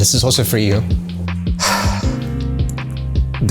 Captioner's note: sighs